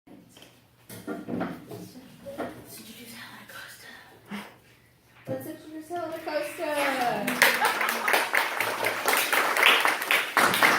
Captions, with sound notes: *whispers* Introduce Helen Acosta Let's introduce Helen Acosta! *applause*